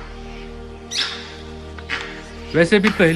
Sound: Langur giving alarm calls

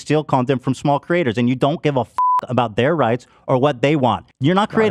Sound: beeps

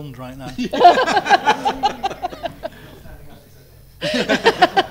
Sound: all laugh

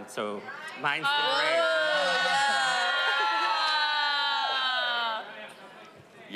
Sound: audience cheering

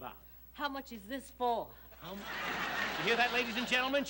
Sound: audience snickers

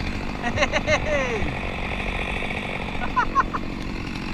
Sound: laughing

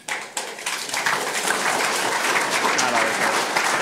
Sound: applause

